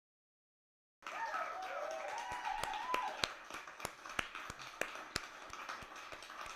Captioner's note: applause and cheers